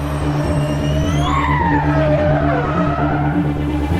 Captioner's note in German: quietschende Reifen